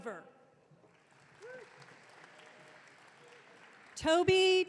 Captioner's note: audience cheering